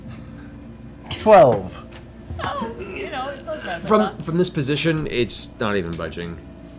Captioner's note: grunting